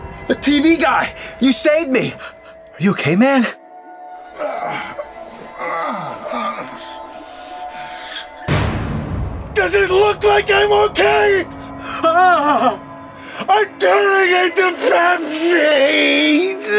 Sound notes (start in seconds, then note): 4.2 groaning; 12.0 screams in terror